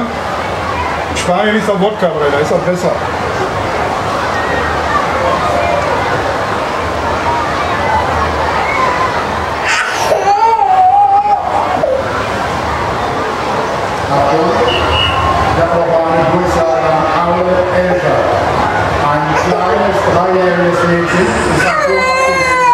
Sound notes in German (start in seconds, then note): 9.6 weint